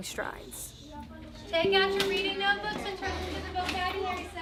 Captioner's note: classroom sounds